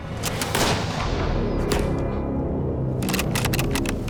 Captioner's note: gunshot